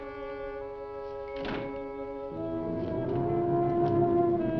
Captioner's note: slow dramatic music; door thudding; slow dramatic music